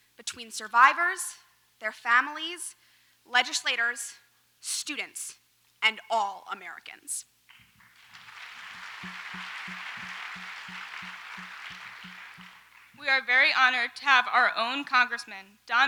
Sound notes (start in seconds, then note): 7.6 audience applauds